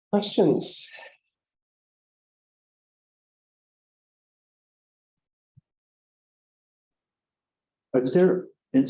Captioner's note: silence